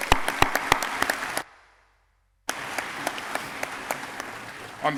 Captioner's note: audience clapping